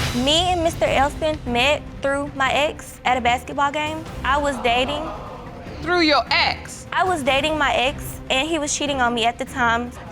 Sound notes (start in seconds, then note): 4.4 audience exclaim